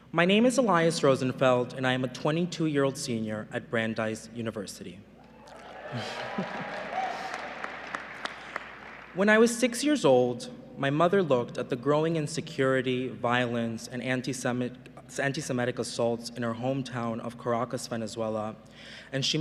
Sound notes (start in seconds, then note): 5.2 cheering and applause; 5.8 chuckles